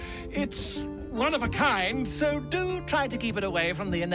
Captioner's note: none